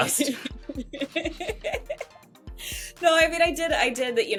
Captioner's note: laughing